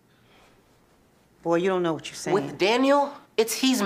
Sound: none

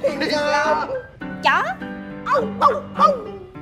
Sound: barking

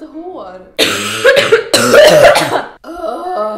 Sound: coughs

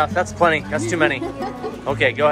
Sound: laughs

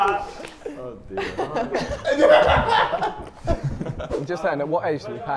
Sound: everyone laughs; JJ laughs

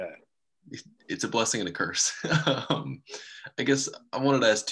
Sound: laughs

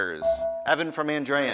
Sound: ding

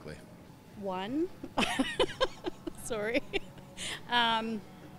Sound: laughs

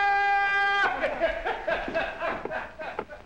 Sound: laughing

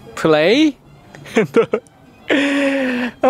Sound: laughs

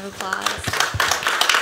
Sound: applause

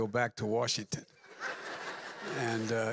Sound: laughter

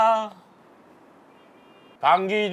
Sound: silence

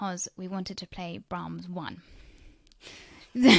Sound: laughs

